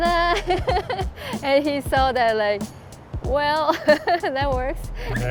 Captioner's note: laughs; laughs